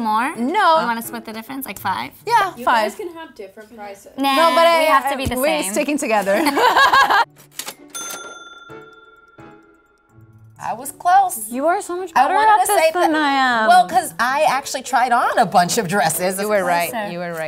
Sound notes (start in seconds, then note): 6.3 laughs; 7.3 cash register rings